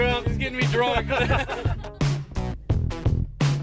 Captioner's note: laughter